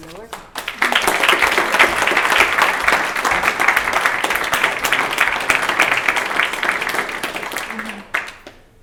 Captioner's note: applause